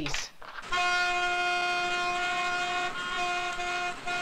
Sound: horns honking

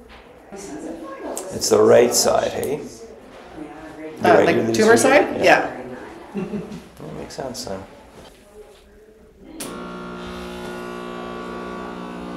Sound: vibration sound

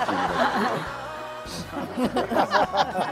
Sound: giggling

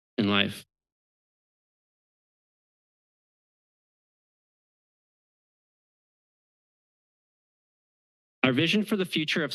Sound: pause

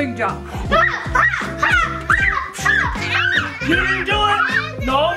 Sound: yells

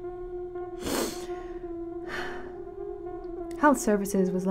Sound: sniffling

